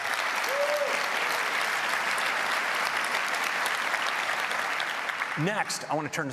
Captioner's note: applause